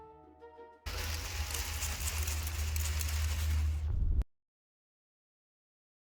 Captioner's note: swishing rustling noises